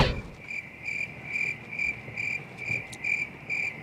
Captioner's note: crickets